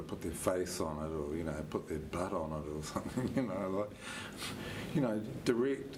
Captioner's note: chuckles